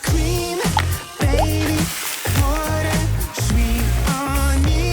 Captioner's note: breadcrumb dropping